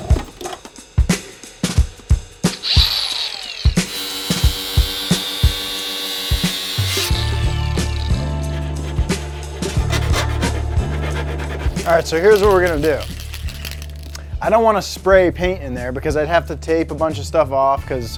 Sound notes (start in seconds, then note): 2.8 saw revving; 2.8 saw whirring; 5.9 jazzy music